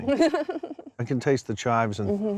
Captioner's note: giggling